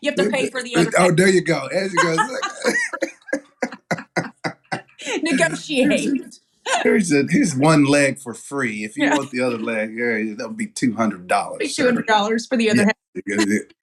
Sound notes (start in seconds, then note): 2.9 laugh; 13.2 laugh